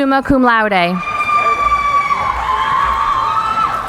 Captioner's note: cheering